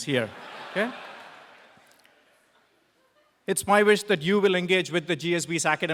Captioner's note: laugh